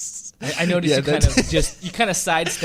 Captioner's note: laughs